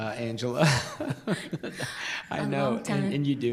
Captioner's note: laughs